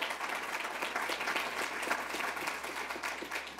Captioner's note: applause